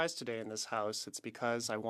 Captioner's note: speaking French